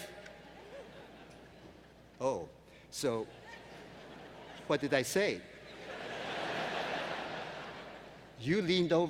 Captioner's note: laughter